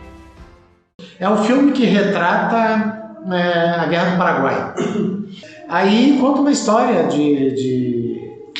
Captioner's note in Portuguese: limpando a garganta